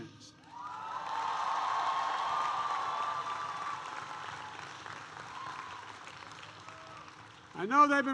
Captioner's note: applause